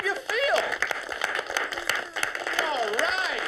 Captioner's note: applause